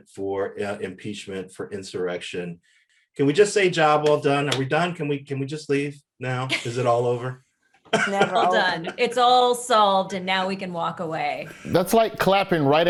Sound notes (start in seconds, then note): 5.0 Eric claps; 7.8 Desi laughs; 7.9 panelists laughing